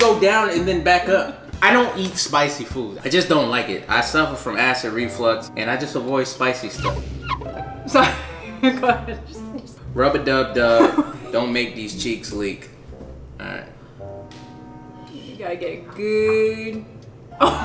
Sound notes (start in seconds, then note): 6.7 high pitched wiping